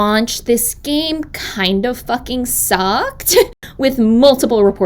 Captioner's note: laughs